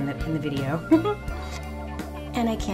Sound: laughs

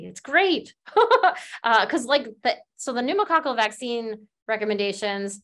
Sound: laughter

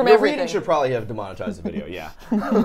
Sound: laughs

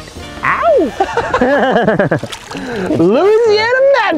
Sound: laughter

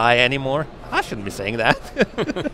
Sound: both laugh

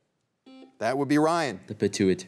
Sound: buzzer beeps once

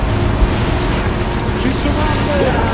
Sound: boats splashing

